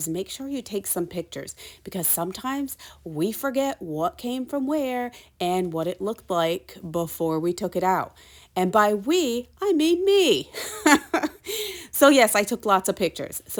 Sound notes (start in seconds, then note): 10.6 chuckles